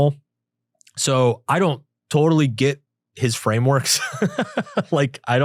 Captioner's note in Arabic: يضحك